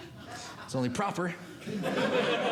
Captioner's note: audience Laughing